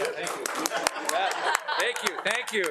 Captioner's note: crowd applauding